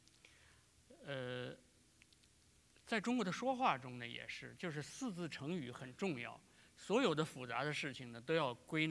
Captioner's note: speaking in Chinese